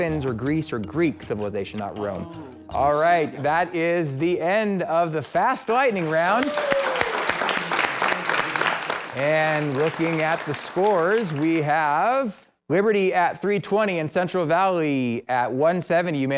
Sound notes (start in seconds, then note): 6.0 clapping